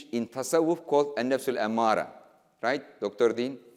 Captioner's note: speaking in foreign language